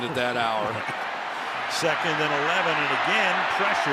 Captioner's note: laughs